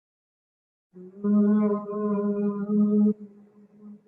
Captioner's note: humming